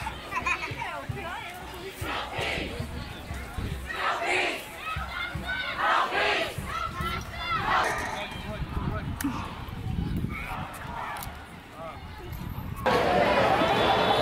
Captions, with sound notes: No justice! No peace! No justice! No peace! No justice! [click]